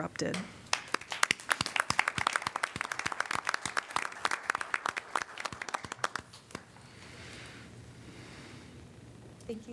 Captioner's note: applause